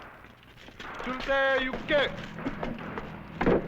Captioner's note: non-english speech